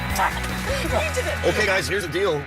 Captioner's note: laughs